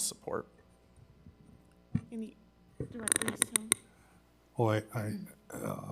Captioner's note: faintly speaking